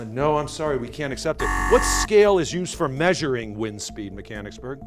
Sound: buzzer

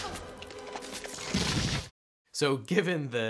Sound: bones clatter

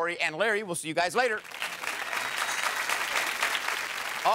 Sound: applause

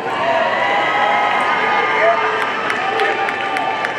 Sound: audience cheering

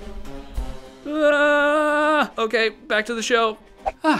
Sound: screams

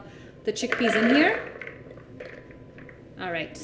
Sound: food processor clattering

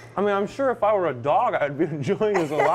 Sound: laughter

